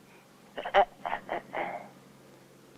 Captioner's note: scolding